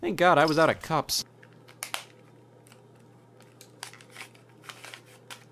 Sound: cube clicking and cracking

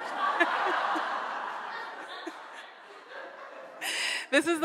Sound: audience laughs

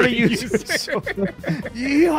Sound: laughs

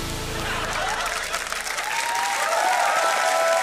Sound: cheering and applause

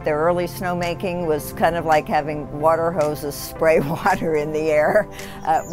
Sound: laughing

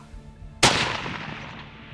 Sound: gun shot

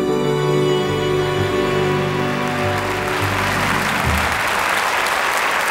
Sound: audience applauding

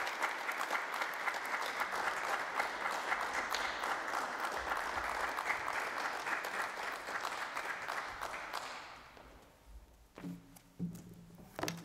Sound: applause

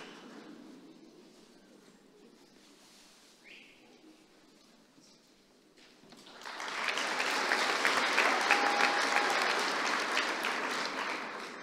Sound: applause

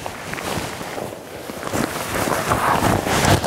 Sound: crackling

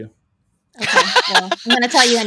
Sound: laughing

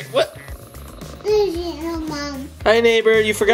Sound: cat purring

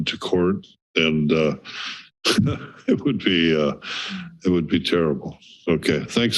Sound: chuckles

